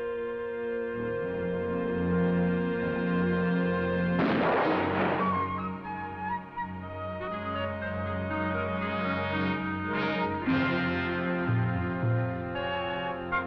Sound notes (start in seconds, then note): 4.2 gun firing